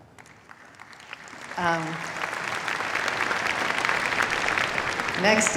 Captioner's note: applause